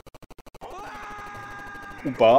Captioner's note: scream of fall